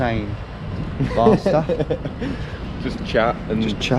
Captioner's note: laughs